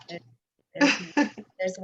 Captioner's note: laughter